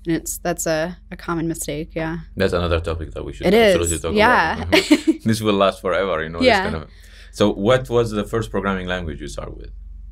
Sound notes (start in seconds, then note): 3.4 laughs